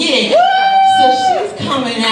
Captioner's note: man cheers